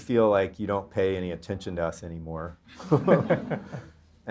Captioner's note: laughs